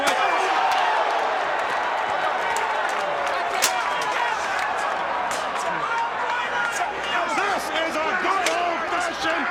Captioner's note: crowd chatter